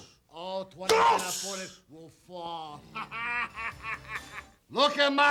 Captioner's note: laughs